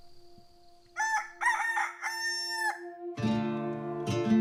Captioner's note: rooster crowing